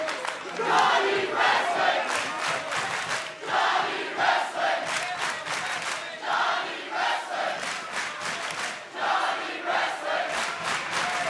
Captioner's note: fans chanting johnny wrestling